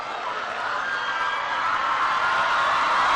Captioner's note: applause